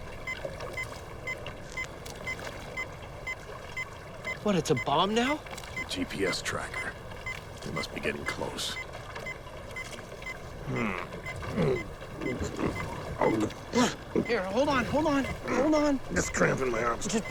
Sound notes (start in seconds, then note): 0.2 electronic beeping; 11.4 grunting